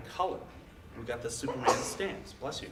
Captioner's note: audience member sneezes